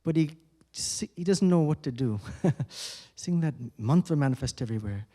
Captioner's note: chuckles